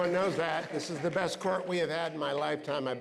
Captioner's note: applause